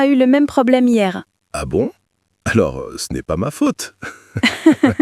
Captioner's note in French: rire